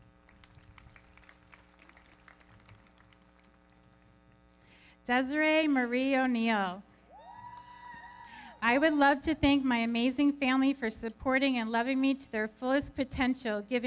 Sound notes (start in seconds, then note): 0.2 everybody clapping; 7.1 audience cheering